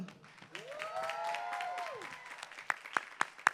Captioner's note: applause